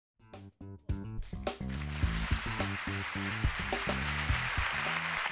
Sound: applause

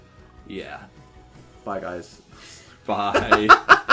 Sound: laughs

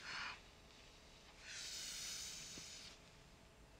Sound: Brigit panting

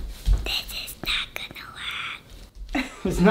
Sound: whispering

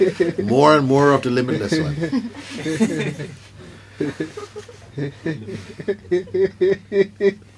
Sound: laughter; laughter

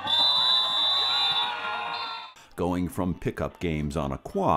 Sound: whistle

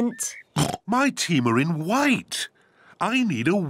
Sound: oinks

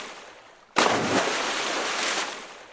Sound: splash

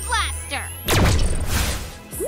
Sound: laser fires

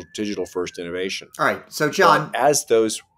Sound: sirens

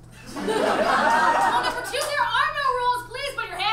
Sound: audience laughs

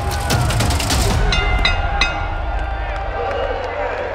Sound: bell ringing; audience applauding

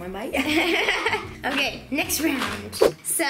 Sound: laughs

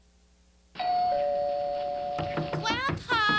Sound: doorbell rings; knocking on door

